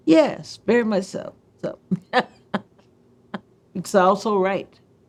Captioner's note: laughs